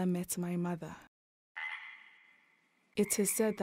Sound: frogs croaking

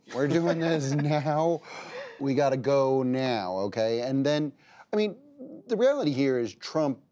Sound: laughter

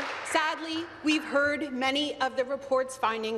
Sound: applause

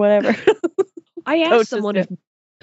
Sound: laughs

